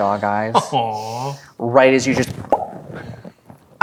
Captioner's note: makes popping sound